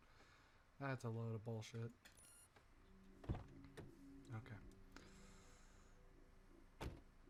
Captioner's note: car door opens